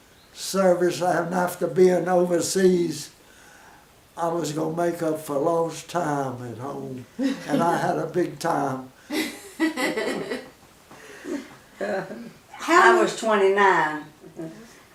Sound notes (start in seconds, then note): 9.1 women chuckle